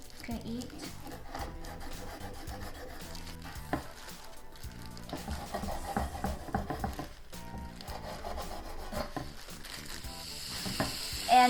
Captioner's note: slicing